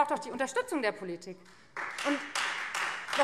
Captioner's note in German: Beifall Freie Demokraten